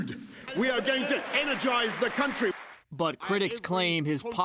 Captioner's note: applause